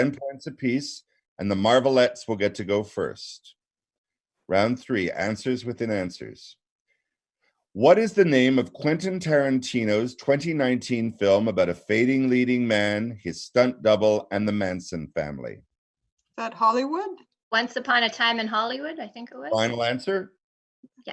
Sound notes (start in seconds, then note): 11.7 laughs